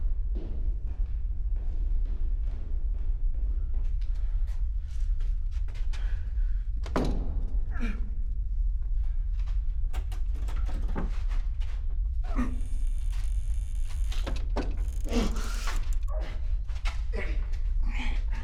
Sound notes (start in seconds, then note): 7.7 grunting; 12.1 door creaking